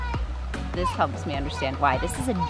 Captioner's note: children exclaiming